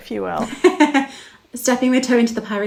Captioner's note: laughing